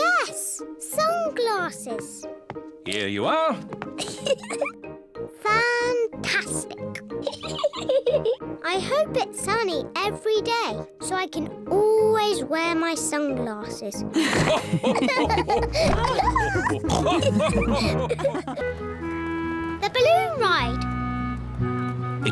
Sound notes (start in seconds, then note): 4.0 laughs; 7.5 laughs; 14.2 all laughing